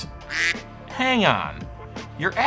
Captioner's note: duck quacking